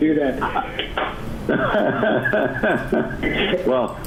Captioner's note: laughing